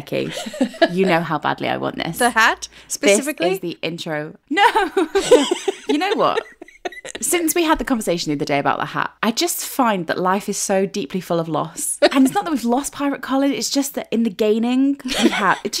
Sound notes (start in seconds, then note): 0.2 laughing; 4.6 laughing